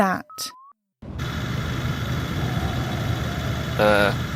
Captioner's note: heavy motor noise